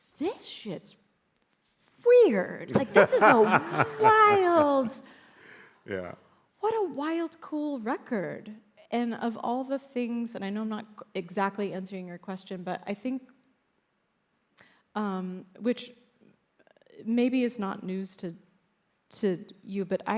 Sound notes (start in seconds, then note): 5.2 laughs